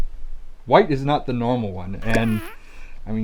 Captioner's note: fart noise